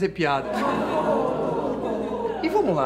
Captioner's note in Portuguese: risadas